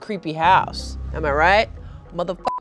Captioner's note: beep